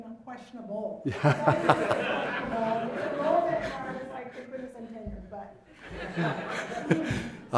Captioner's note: laugh